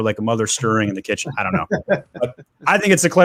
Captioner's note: laughs